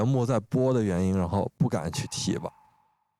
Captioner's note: choking up